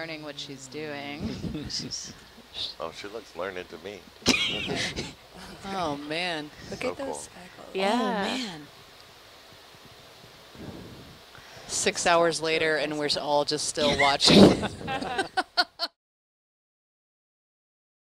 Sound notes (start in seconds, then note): 4.2 laughter; 14.2 laughter